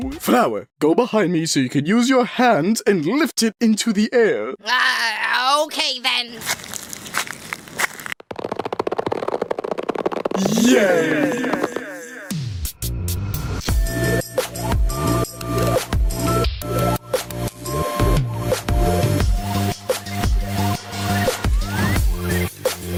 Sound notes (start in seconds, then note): 6.3 walking sound; 6.4 stretching sound; 12.1 intro music